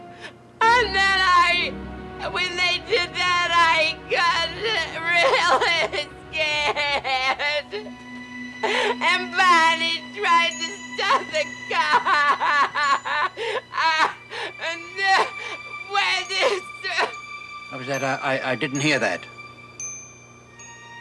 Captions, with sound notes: And then I, when they did that, I got really scared, and Barney tried to stop the car [sobbing]. And then, where this, uh- - What was that? I, I, I didn't hear that.